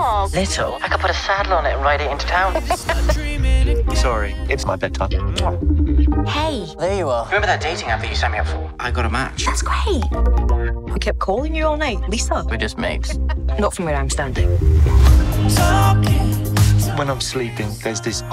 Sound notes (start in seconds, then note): 2.5 laughs